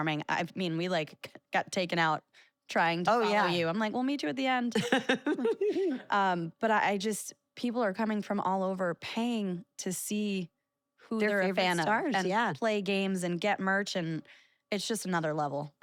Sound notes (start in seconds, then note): 4.8 laugh